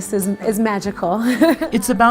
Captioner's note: laughs